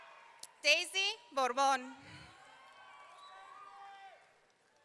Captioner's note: audience cheering